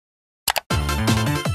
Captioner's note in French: Clic